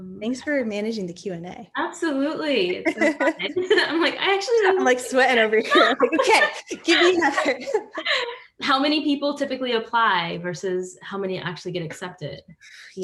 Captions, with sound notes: Thanks for managing the Q&A - Absolutely. I'm like actually. - I'm like sweating over here. (panelists laughing) - How many people typically apply versus how many actually get accepted?